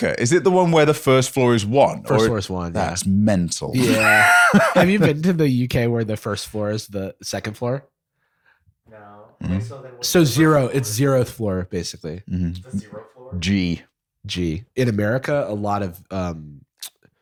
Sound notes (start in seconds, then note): 3.7 laughter